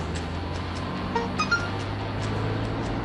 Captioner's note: beeping